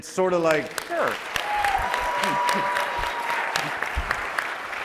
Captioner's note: audience applauding